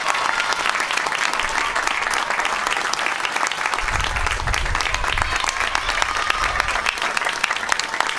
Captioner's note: applause